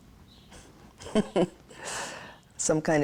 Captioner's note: laughs